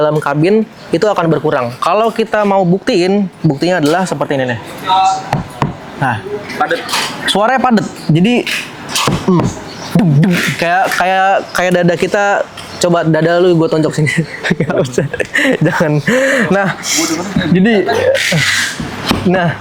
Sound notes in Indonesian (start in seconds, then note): 13.9 tertawa